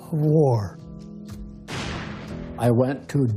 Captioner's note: machine gun shot